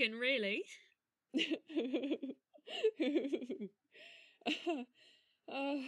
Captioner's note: bella laughs